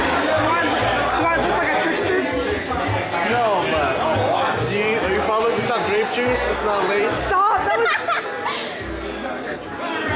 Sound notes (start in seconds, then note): 7.4 laughter